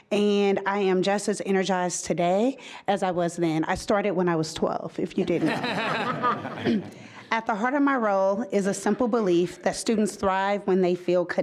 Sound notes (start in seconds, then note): 5.3 group laughing